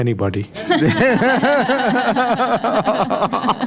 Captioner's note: laughing